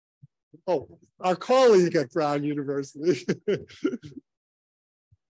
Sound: chuckles

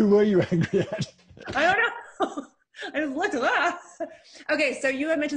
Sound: chuckling

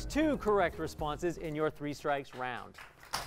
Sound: applause

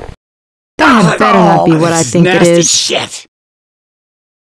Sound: groans of disgust

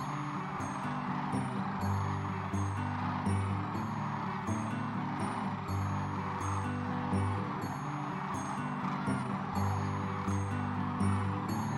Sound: crane song

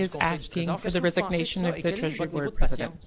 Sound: speaking French

